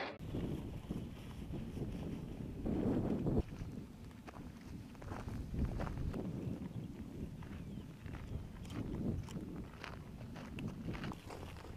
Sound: sound of soldiers running through the grass

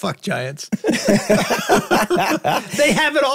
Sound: group laughing

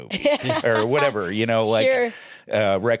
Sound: laughs

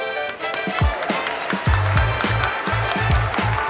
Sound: applause

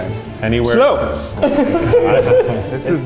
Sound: laughs

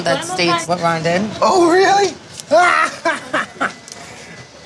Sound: cackles

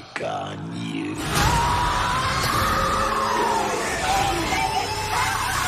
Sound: screaming

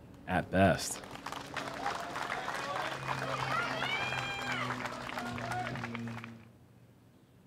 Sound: applause

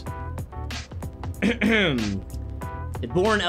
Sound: clears thoat

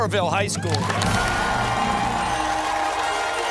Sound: cheers and applause

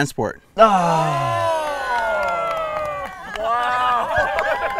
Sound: crowd cheering

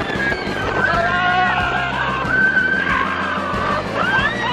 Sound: riders shouting

